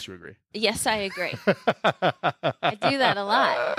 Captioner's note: laughing